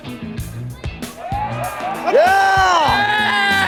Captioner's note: cheering